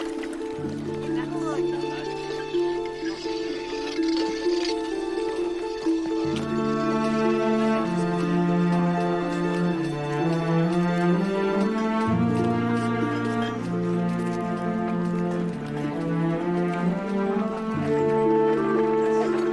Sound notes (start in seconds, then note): 2.2 crowd chattering